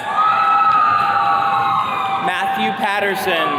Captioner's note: attendees cheering